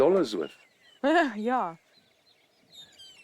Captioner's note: laughs